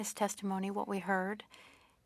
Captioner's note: speaking French